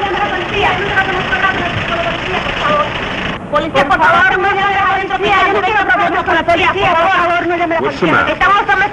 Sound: the women are speaking rapid Spanish to the police

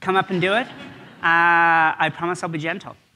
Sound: audience laughs

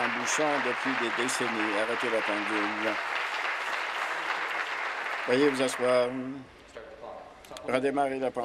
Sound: applause

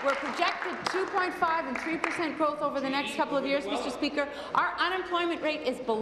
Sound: applause

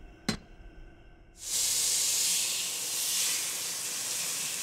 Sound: metal clanking; steak sizzling

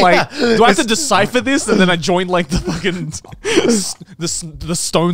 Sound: laughing

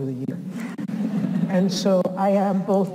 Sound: audience chuckles

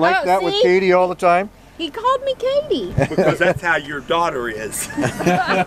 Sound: laughter

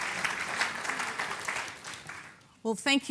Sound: clapping

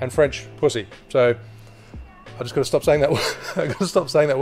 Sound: laughs

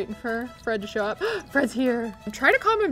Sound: gasps

